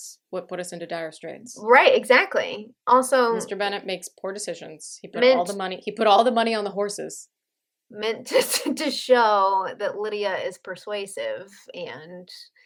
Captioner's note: laughter